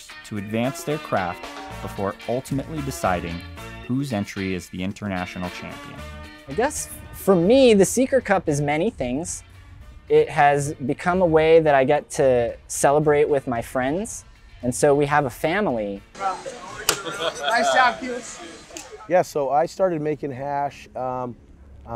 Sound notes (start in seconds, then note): 16.2 guys laughing; 16.4 hands clapping; 16.4 coughing